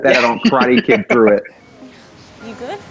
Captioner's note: laughs